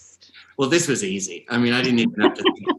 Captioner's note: laughing